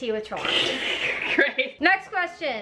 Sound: laughs

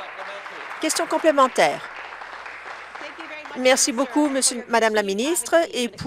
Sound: applause

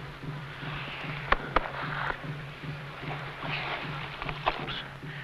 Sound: hand patting

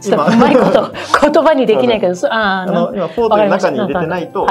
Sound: laughs

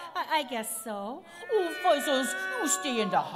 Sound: cats meowing

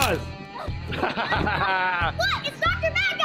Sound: laughs

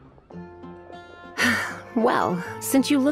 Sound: sigh

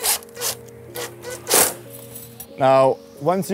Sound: drill revs

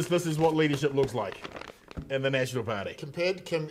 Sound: crinkling

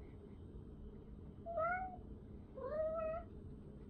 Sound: Kuma meows

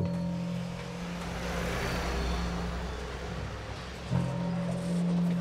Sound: engine whirring; low depressing music

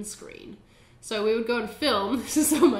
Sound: laughs

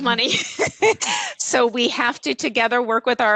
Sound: laughter

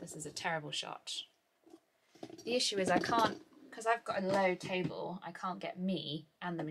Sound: camera moving noises

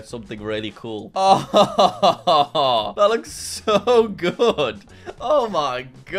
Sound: laughs

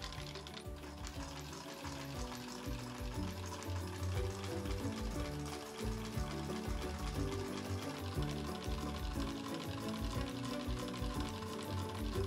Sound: antique sewng machine ASMR noises

